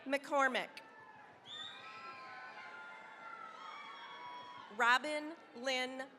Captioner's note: cheering, applause